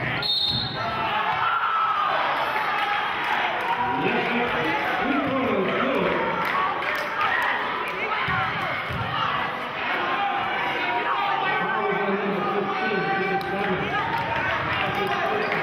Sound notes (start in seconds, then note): 0.1 yelling; 0.2 whistling; 3.2 yelling and cheering